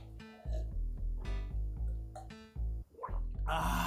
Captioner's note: gulp gulp